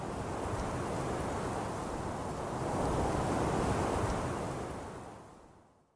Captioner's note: winds Blowing